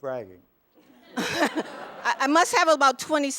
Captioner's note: laughter